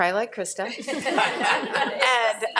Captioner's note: people laughing